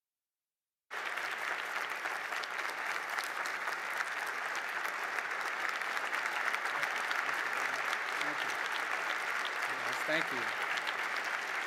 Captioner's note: applause